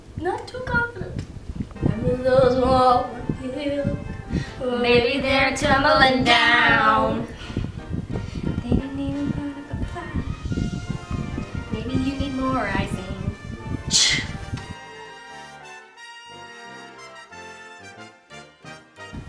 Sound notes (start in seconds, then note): 7.8 instrumental; 14.0 disapproving sound; 15.0 instrumental